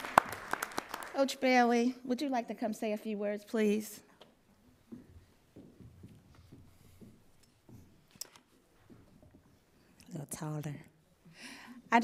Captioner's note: applause